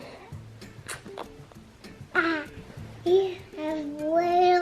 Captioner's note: kissing